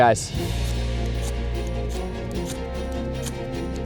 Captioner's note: flint scratching